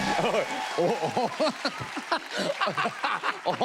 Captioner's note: laughs